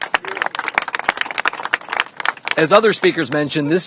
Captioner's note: applause